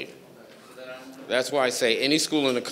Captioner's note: speaking faintly